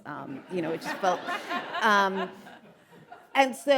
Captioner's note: audience laughing